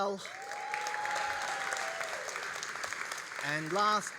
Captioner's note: all applauding and cheering